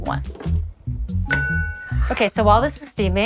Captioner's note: ding